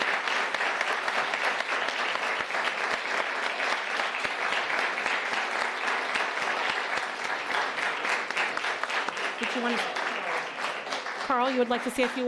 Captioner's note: applause